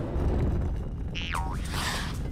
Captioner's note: boing; scratching